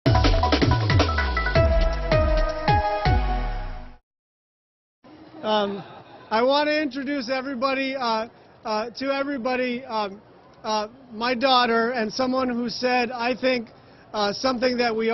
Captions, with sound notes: [CROWD CHEERING] AND I'M GOING TO INTRODUCE YOU. I WANT TO INTRODUCE